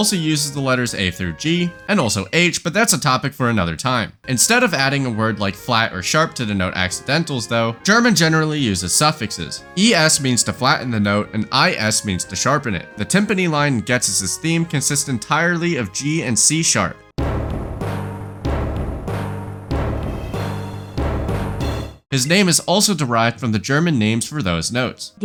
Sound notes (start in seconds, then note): 17.2 bang